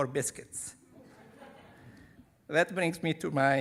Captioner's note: audience laughing